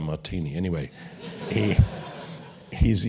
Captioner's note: laugh